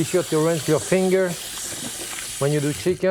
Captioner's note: water rushing